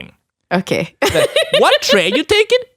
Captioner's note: laughs